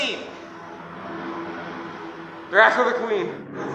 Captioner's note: WWII aircraft sounds